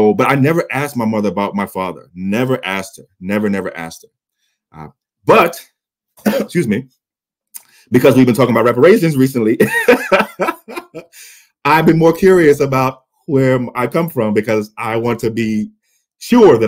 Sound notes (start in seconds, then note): 6.2 coughs; 9.6 chuckles